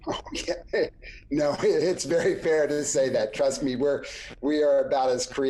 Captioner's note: laughs